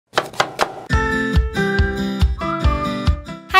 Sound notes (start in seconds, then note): 0.1 knife hitting chopping board; 0.4 upbeat music